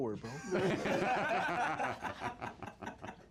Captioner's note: laughs